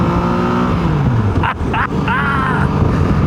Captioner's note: laughs